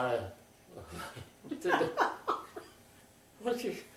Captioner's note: laughter